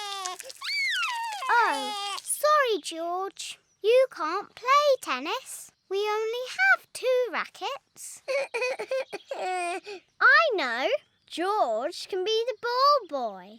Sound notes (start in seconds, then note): 0.0 cries; 0.0 screams; 8.2 sobs